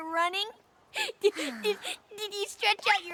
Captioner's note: sighs